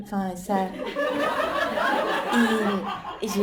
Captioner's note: laughter